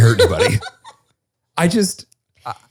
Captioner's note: laughs